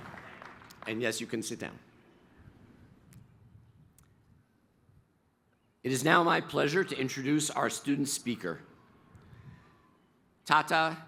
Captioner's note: applause